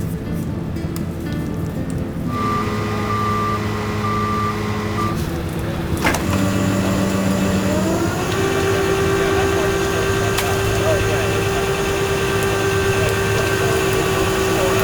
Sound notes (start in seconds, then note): 2.3 tow truck beeping; 2.3 tow truck winch whirring; 10.3 mud splashing